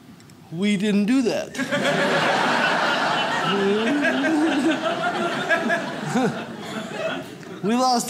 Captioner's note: audience laughs